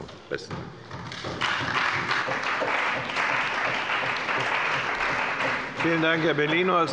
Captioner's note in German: Beifall bei der CDU und dem BÜNDNIS 90/DIE GRÜNEN